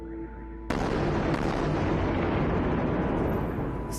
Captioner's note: explosions